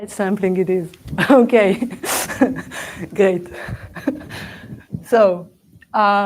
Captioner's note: laughs